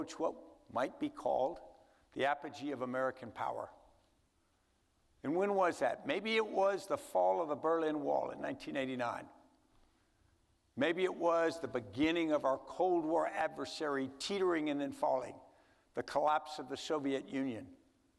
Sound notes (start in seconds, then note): none